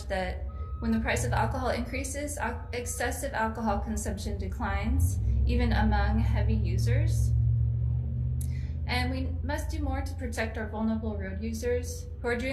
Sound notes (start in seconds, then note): none